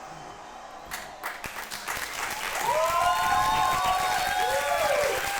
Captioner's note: audience applauds and cheers